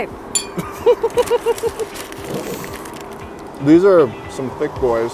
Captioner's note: laughter